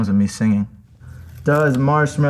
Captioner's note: sticker rips